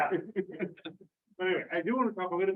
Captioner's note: laughter